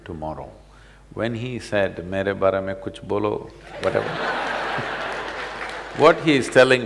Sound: laughter

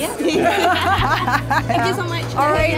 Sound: laughs

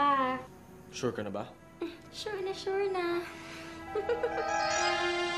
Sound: giggles

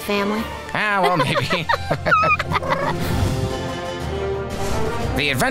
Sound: laughs

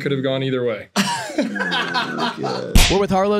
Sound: laugh

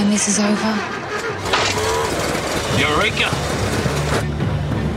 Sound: motor starts

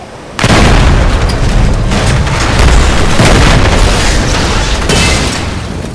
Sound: explosions

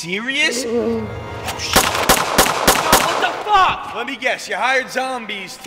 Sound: groans

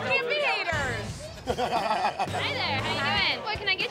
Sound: laughing

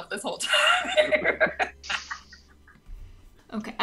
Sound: laughs

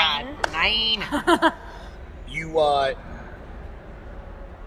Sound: laughter

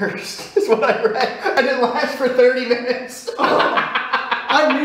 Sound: slapping; laughs

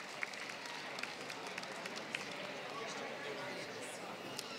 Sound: applause

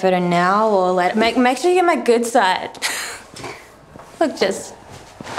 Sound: laughs

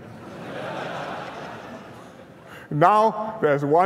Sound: laughter

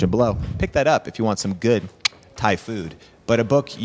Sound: clicks

